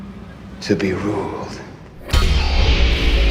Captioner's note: soundbite of weapon sound effect